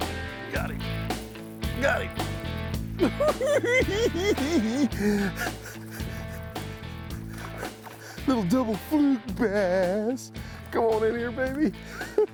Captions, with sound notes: Got him! Got him!! [cackling] Little double Fluke bass! Come on in here, baby!